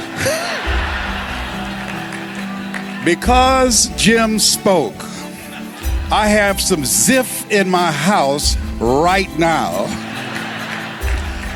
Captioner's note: laughter; laughter